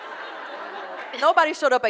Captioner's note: audience laughing